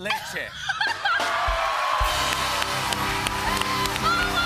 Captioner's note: cheers and applause